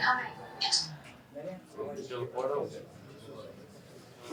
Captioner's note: indistinct chatter